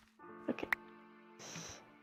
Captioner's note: quietly